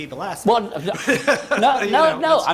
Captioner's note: laughter